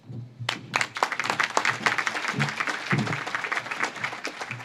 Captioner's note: audience claps